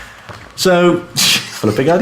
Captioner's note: laughing